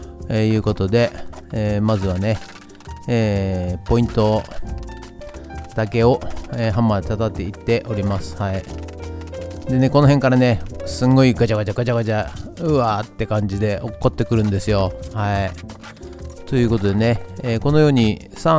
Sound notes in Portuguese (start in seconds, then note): 12.9 clac clac